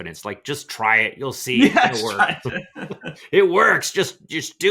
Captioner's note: laughing